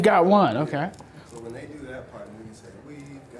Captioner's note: voiceover